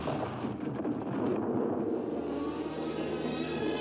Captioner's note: thunder rumbling; dramatic music